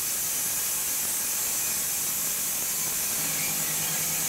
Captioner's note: machine sawing